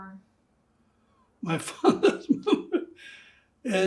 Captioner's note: laughing